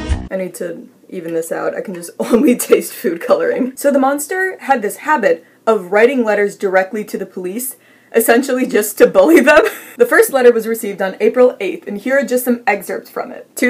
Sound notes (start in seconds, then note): 0.0 funky music; 9.4 laughs; 13.5 while laughing